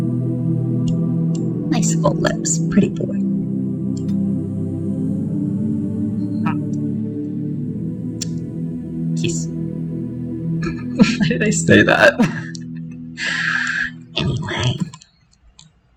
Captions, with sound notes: Nice full lips. Pretty boy. hrm. Kissu. Why did I say that? [Laughter] Anyway!